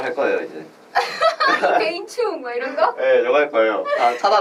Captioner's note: laughs